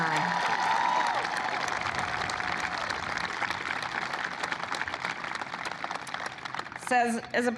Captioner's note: applause